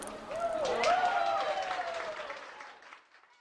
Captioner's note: applause